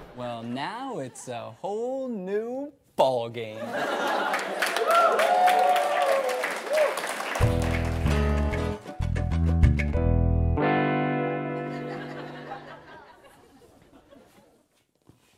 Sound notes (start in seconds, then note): 3.6 audience laughs and cheers; 7.4 upbeat music